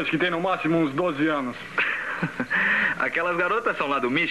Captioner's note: laughs